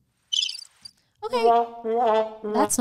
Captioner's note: sound effects